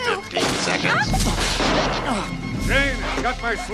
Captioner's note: electricity crackles